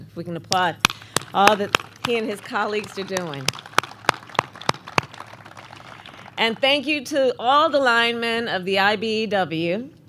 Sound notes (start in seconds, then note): 3.9 applause